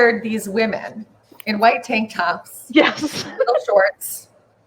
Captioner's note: laughs